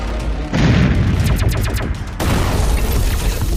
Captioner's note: explosions